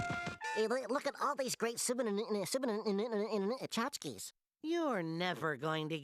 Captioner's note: stuttering